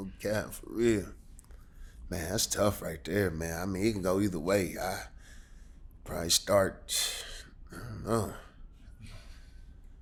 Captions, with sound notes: I'm captain for real. Man that's tough right there man. I mean it can go either way. I, probably start (exhales). I don't know.